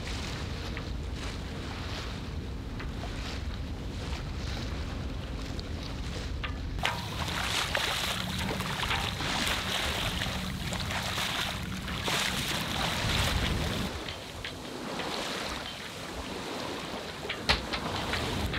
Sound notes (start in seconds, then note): 0.1 water lapping softly; 7.3 water sloshing against boat